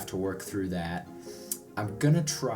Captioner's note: smacks lips